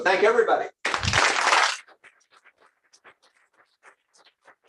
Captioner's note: applause